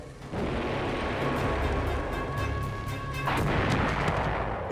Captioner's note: bomb exploding